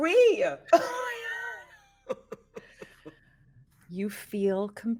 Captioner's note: laughs